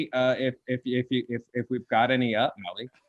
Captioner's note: stuttering